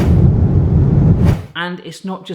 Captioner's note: plane rumbling